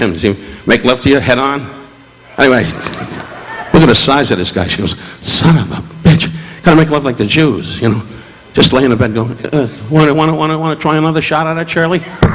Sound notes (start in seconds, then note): 2.7 Don chuckling